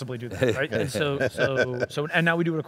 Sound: laughing

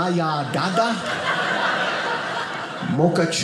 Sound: audience laughing

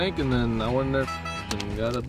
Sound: horn sound

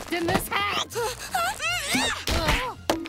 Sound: groaning

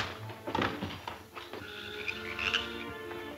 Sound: crash; dramatic music

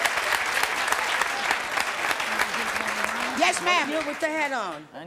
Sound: audience applause

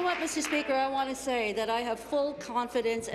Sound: applause

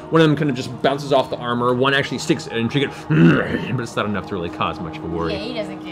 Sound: growls

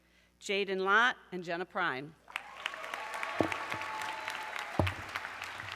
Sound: audience cheering

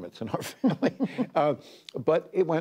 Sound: laughter

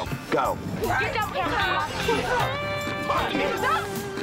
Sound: chatter

